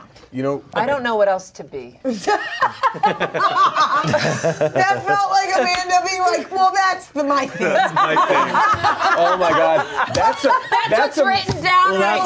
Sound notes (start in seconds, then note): 2.1 laughs; 7.6 everyone laughs